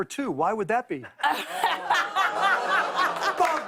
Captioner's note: audience ohs; laughter